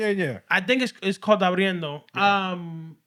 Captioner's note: speaking Spanish